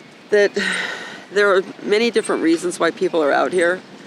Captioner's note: sighing